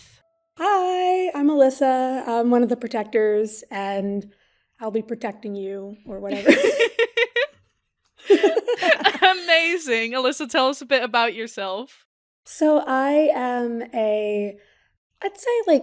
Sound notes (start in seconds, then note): 6.3 both laugh